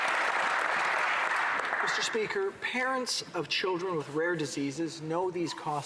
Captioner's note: applause